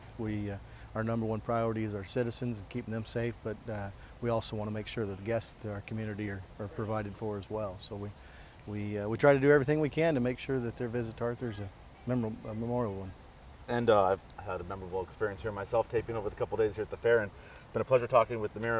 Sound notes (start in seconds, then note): none